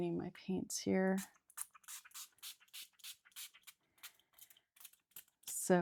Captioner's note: water spraying